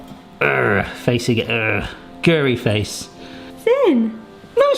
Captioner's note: grumbles